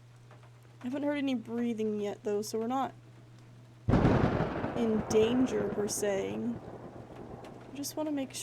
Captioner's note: thunder